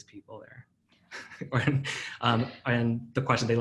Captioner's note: laughing